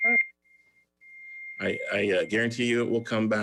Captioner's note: beeping